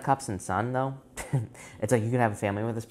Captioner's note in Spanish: Risas